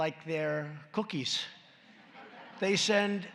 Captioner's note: laughter